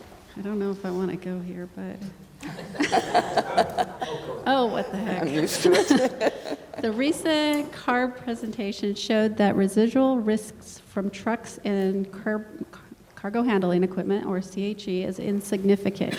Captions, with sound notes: THIS ONE WAS A LITTLE BIT OF A ZINGER SO, I DON'T KNOW IF I WANT TO GO HERE, BUT [LAUGHTER]. OH, WHAT THE HECK? "THE RECENT CARB PRESENTATION SHOWED THAT RESIDUAL RISKS FROM TRUCKS AND CARGO HANDLING EQUIPMENT OR CHE,